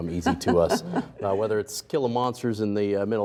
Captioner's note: laughing